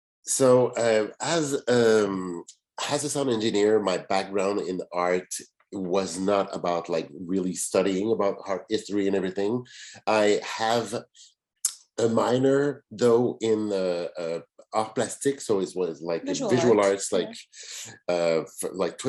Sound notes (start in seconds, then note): 13.5 French